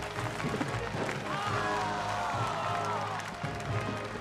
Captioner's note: cheering; applause